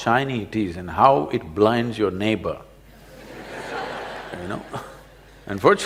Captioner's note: laughter